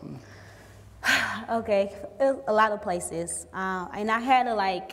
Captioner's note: exhales